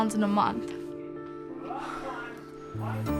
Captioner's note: exhales